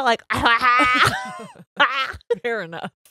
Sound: makes gagging sounds

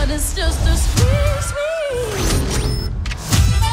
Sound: electronic beeping

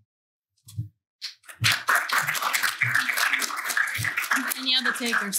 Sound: applause

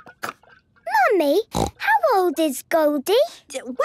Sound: snorting

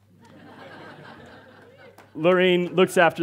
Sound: audience laughs

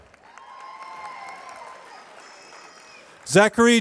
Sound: applause

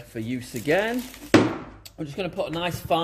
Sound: tool thuds

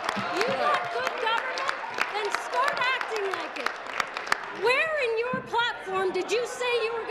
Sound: applause

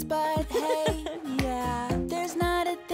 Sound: laughing

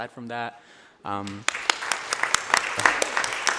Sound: applause

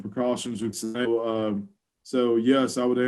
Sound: audio glitches

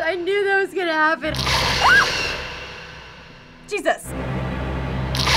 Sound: screams

